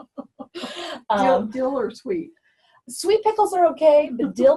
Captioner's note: laughs